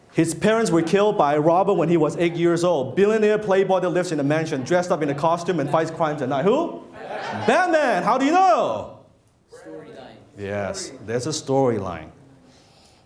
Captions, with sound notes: His parents were killed by a robber when he was eight years old. Billionaire playboy that lives in a mansion. Dressed up in a costume and fights crimes at night, who? - [Crowd] Batman! - Batman, how do you know? (random murmurs) - Yes, there's a storyline.